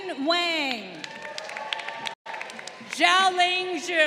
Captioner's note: crowd applauding